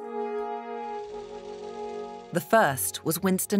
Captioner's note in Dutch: projector zoemt